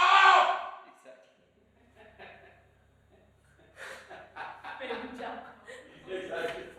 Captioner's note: laughter